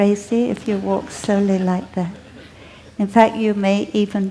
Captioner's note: laughter